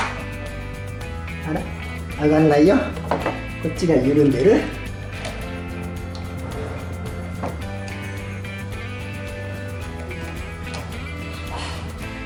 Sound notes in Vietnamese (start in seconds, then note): 6.6 cười